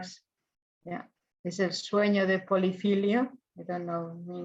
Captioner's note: speaks in foreign language